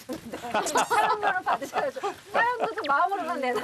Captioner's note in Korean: 하하하하하하하하